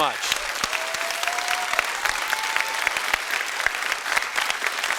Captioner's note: students clapping